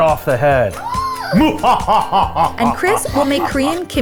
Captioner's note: laughs menacingly; shrieks